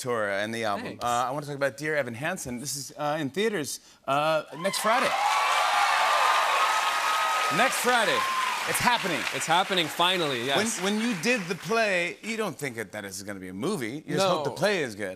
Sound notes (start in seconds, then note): 4.6 cheers and applause